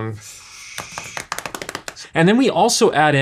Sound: tapping pencil

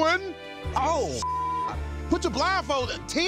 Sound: beep

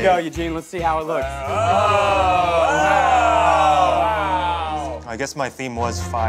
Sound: exclaiming

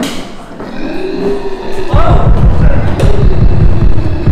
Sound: roaring

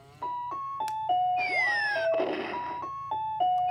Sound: bomb explodes

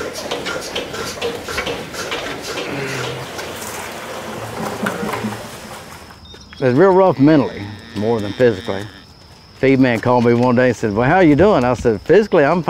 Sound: sounds of machines

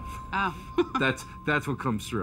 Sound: laughs

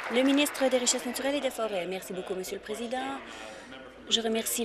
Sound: applause

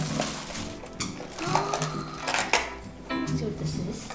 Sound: gasps

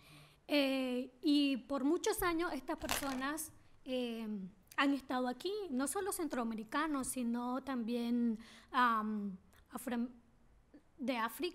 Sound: speaking spanish

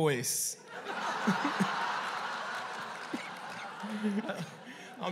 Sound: laughter

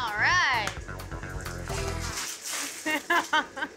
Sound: coals clattering; laughter

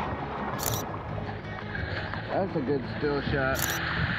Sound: camera clicks

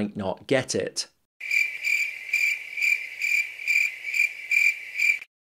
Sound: crickets chirping

